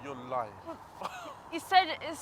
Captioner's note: scoffs